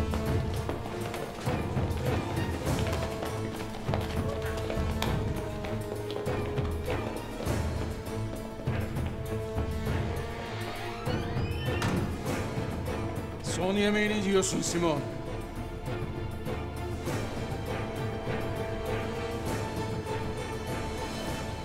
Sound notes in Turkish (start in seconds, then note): 0.0 Müzik - Gerilim; 0.0 Ayak sesleri; 11.1 Kapı kapanma sesi; 15.3 Müzik - Gerilim